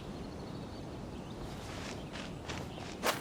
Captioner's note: none